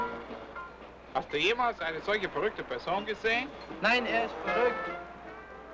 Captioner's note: upbeat jazz music; speaking in German